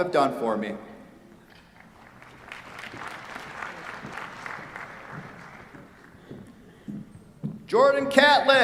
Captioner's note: applause